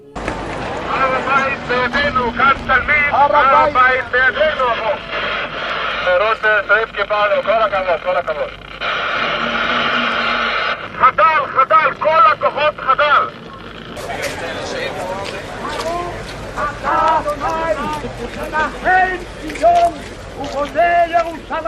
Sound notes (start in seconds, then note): 5.8 war radio recording: "Well done! Well done!"; 10.9 war radio recording: "Ceasefire, all forces ceasefire!"